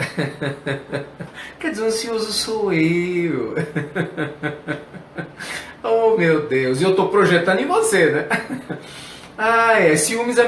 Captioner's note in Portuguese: risos